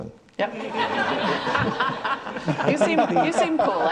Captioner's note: audience laughs